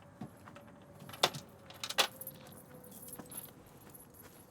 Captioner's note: shackles jingling